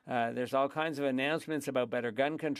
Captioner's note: speaking French